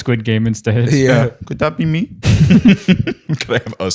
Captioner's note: laughs